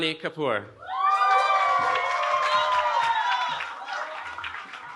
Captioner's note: cheering